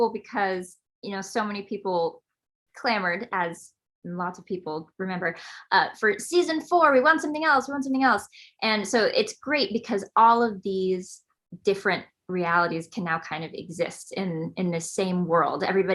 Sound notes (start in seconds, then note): none